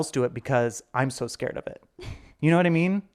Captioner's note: chuckling